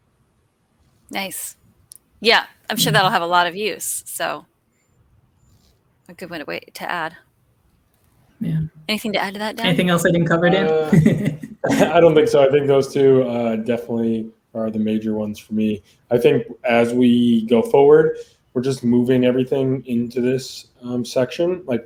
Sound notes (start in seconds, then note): 6.1 conversing quietly; 10.6 laughs